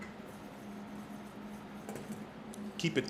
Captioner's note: whisk scrapes